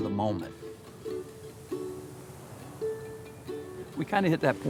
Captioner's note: ocean waves